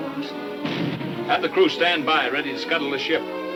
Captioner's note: cannon firing